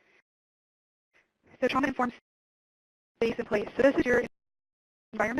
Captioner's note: audio cuts out